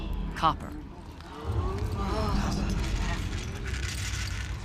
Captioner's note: onlookers gasp and murmur